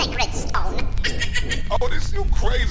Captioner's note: evil laughter